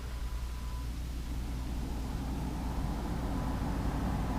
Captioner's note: engine whirring